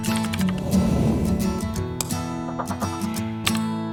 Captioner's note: letters clicking; arrow whooshing; logo flapping